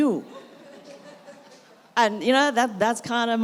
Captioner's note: audience laughs